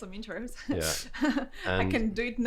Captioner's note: laughs